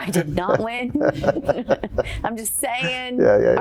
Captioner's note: chuckling